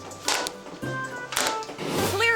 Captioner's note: soda can crunching